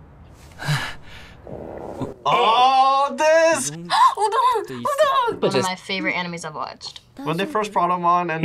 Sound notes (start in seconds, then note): 3.7 gasps